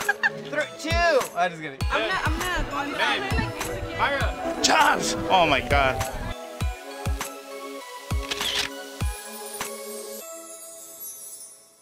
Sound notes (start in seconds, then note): 1.9 all chattering; 6.3 christmas music